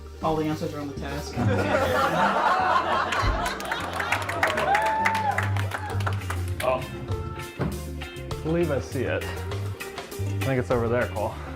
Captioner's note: audience laughter